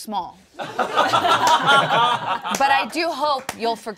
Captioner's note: all laughing